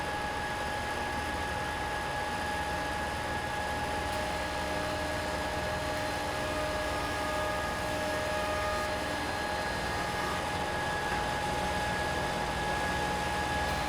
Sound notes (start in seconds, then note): 1.5 whirring